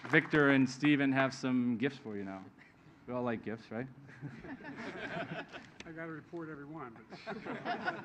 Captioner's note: applause